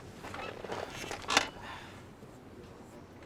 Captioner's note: sighs